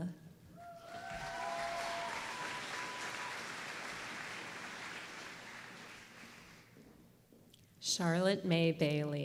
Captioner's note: applause